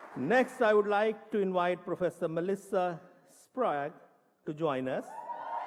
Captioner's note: applause